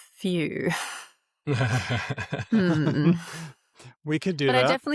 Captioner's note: laughs